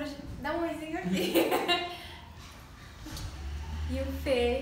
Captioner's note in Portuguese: risos